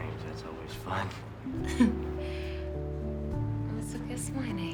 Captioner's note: chuckling